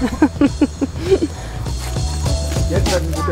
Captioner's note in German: Sie lacht